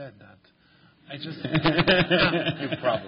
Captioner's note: laughter